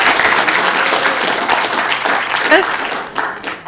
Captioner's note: applause